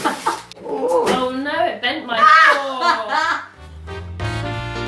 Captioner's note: laughs; upbeat jazz music